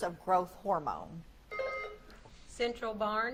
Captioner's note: buzzer beeps